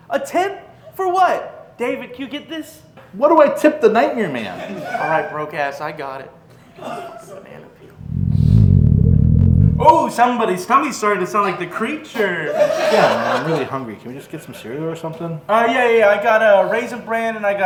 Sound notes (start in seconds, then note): 8.0 stomach rumbles